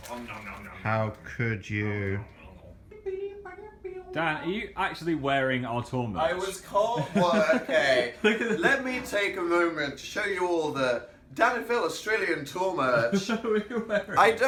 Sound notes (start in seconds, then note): 2.9 humming; 13.0 laughing